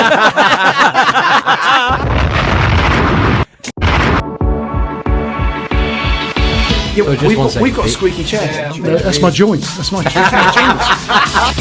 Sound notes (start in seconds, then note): 0.0 all laugh; 9.9 all laughing